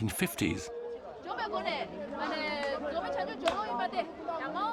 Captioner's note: animated conversation